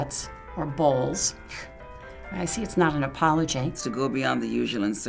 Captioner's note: scoffs